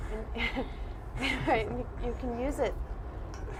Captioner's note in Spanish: risas